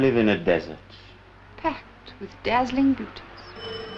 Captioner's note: phone rings